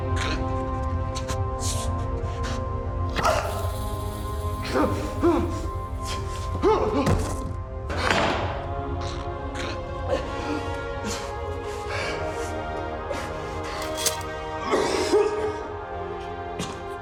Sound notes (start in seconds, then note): 3.2 grunts